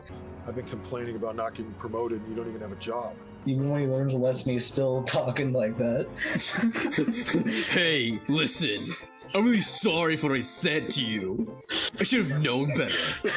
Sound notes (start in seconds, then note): 6.2 chuckles; 8.1 mocking